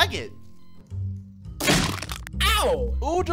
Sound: chomp

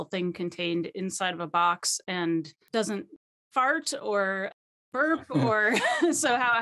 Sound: laughing

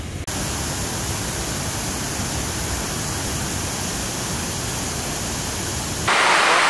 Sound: waterfall sounds

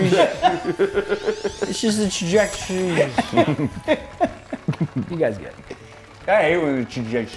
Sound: laugh

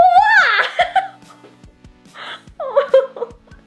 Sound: laughing

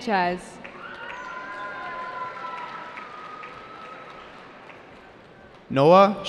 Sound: cheering

